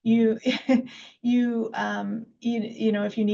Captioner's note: laughs